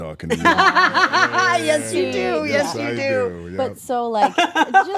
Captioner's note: laugh